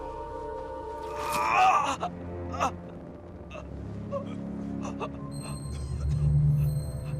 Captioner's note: Homer groaning; flesh squelching; sinister music